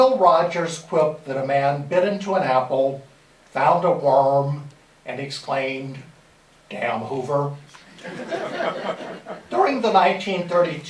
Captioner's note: laughter